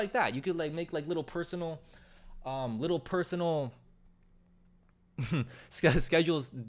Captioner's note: chuckles